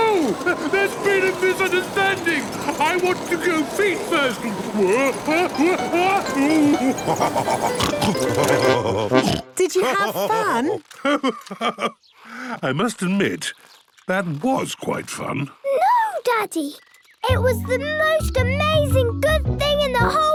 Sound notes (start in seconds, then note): 4.9 shouting; 6.2 laughing, snorting